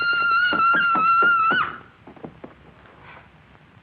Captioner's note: screaming; thumping